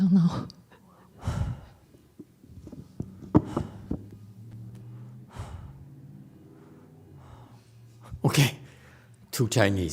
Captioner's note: sighs